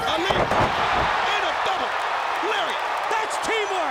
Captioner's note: crowd cheering